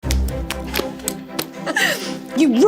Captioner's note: hands slapping; both laughing